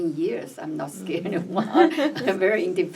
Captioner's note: laughs